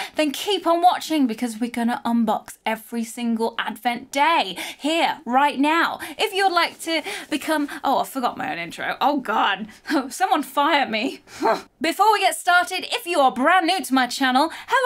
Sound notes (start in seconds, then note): 11.3 huffs